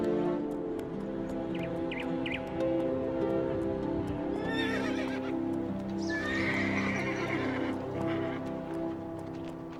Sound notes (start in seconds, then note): 2.2 birds chirping; 4.4 horse neighing